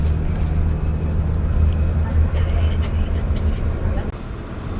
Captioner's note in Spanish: Sonido del bus andando